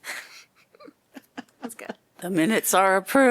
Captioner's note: laughter